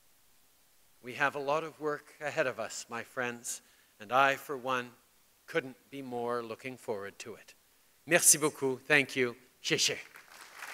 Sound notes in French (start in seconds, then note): 9.9 Applaudissements